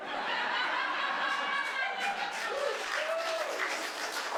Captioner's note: audience clapping